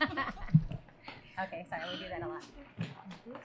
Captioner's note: laughter